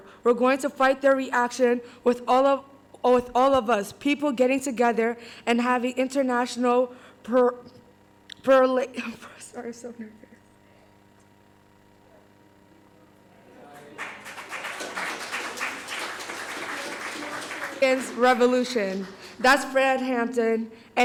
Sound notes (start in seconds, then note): 13.4 crowd murmurs; 13.6 audience applauding